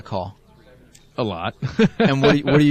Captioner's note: laughs